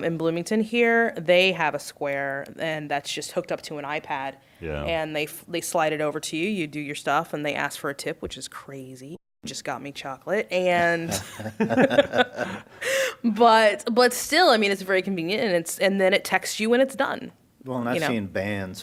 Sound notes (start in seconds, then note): 6.4 laughter